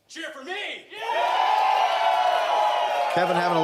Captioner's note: audience cheers